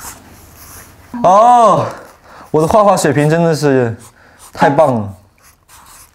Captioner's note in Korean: 감탄